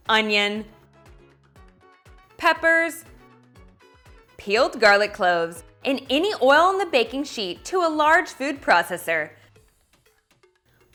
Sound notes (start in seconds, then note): none